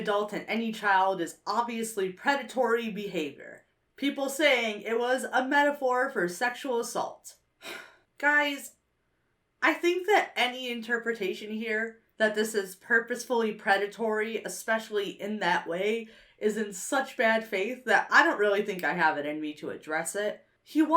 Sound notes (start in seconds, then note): 7.6 sighs